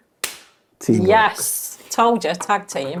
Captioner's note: chuckling; high five slapping